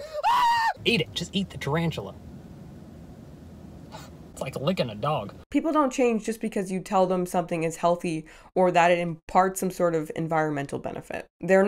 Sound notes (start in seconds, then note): 3.9 gasps